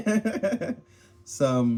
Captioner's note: laughs